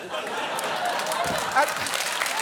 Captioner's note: studio audience laughs, applauds